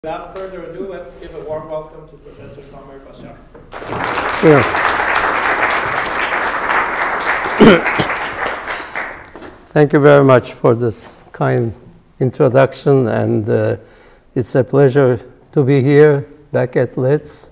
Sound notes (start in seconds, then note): 3.7 applause